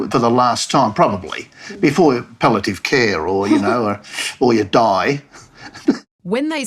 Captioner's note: chuckles